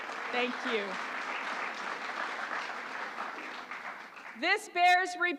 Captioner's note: applause